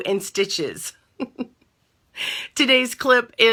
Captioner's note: chuckles